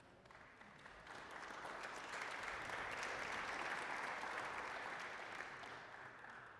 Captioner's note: applause